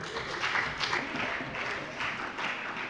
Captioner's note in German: Allgemeiner Beifall